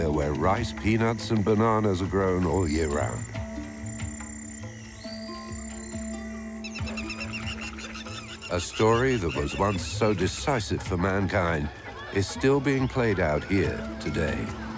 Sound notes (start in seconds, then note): 4.3 birds chirping